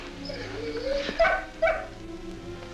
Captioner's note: dog barking